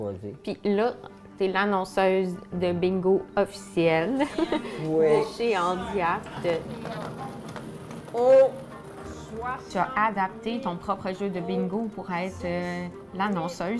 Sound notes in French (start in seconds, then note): 4.1 rires